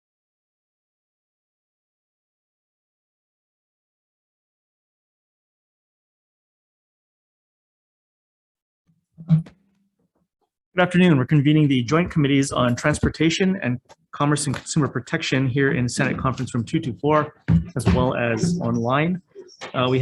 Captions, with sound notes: (gavel strikes) - Good afternoon. We're convening the joint committees on Transportation and Commerce and Consumer Protection here in the Senate Conference room 224, as well as online,